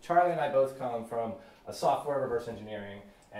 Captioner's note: none